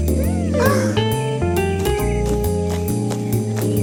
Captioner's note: gasps